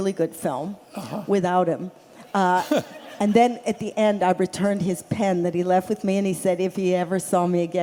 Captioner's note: laughter